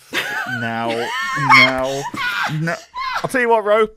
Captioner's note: laughing; laughter; loses it